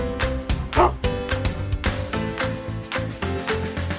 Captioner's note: happy upbeat music; dog barks